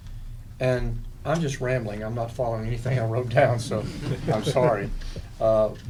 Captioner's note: laughter